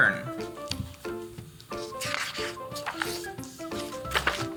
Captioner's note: pages rustle